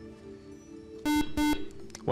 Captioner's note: beep